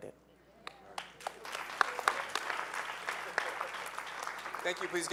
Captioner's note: audience applauds